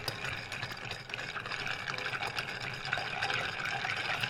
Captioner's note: stirring noises